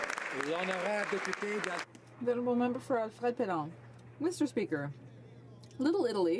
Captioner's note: some Applause